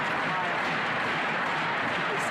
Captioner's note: crowd Noise